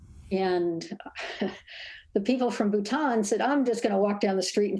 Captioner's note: laughs